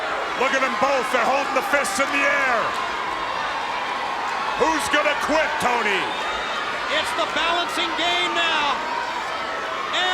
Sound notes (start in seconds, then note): 3.2 crowd cheering